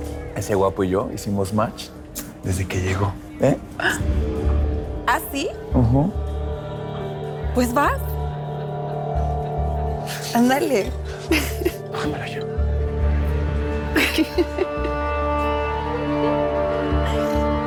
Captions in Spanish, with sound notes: - ESE GUAPO Y YO HICIMOS CLIC DESDE QUE LLEGÓ, ¿EH? - ¿AH, SÍ? - UJÚ. - ¡PUES, VAS! ÁNDALE. [Risas]